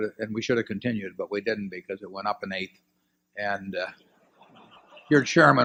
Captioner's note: laughter